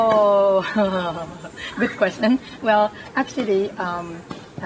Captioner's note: laughs